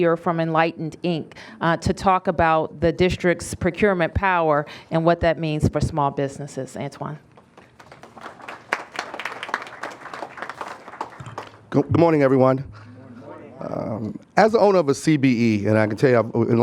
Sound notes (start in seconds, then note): 9.1 applause